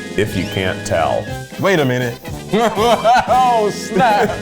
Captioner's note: laughs